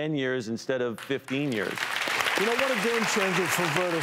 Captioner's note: applause